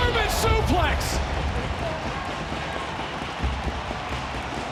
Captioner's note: crowd cheers